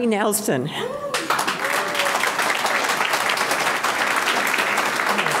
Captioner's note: audience clapping